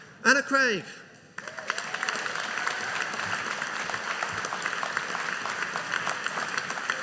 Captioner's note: audience applauding